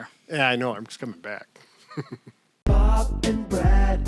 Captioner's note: laughs